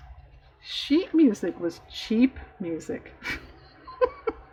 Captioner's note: laughs